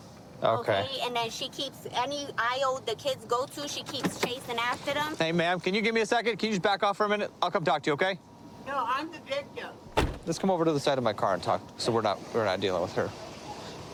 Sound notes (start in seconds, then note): 9.9 car door closes